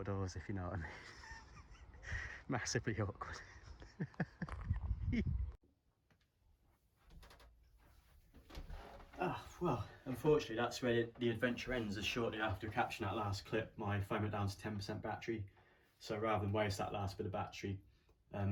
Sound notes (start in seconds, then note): 0.8 laughter; 3.6 laughter